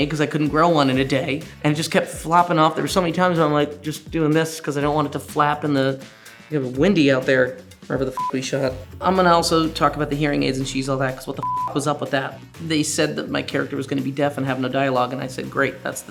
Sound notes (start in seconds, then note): 8.1 beep; 11.3 beep